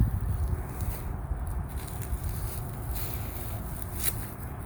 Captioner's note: leaves rustling